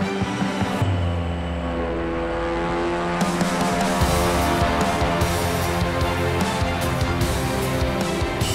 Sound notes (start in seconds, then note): 0.0 gentle music; 0.9 rotor blades spinning rapidly